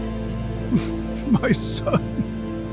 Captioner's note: sobbing